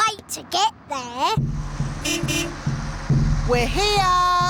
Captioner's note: horn beeps